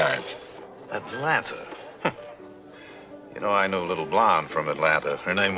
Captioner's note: Jerry laughs